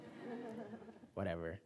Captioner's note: laughing